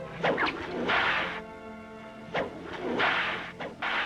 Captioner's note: cracking whip